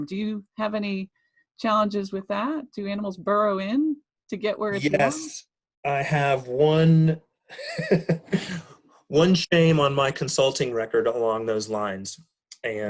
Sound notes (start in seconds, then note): 7.5 laughing